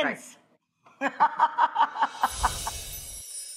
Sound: laughing; magical music

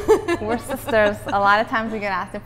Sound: laughter

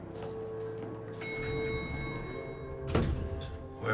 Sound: elevator dinging

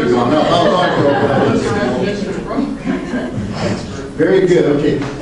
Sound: group laughs

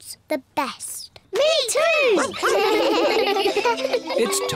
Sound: giggle

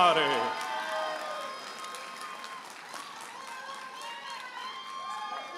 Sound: audience applauding and cheering

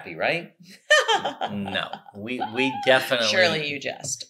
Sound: laughs

